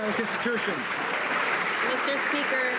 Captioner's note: some Applause